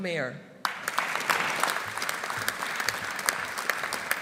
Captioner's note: audience applauding